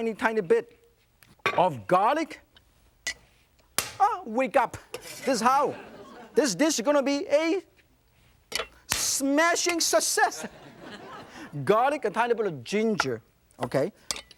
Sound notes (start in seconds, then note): 3.9 knife snapping; 5.5 crowd laughing